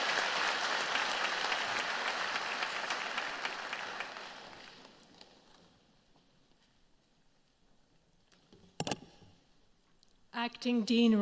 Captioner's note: applause